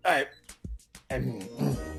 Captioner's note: clearing throat suspiciously